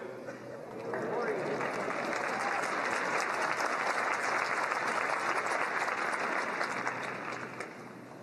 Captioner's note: applause